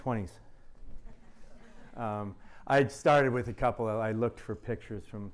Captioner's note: laughter